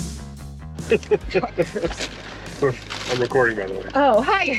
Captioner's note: laughing